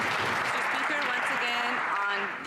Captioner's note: some Applause